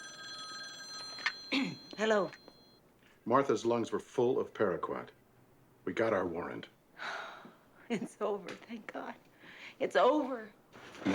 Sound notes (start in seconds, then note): 0.0 phone ringing; 1.5 clears throat; 7.0 sighs